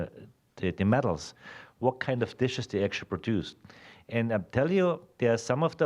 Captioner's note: none